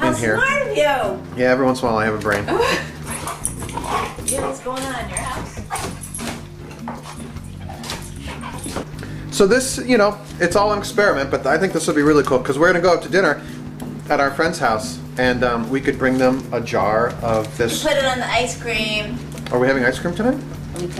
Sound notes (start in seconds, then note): 2.4 woman laughs; 6.2 dogs snarling